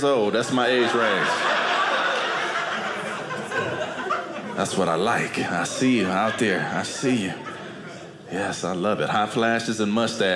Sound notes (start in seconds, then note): 2.0 audience laughing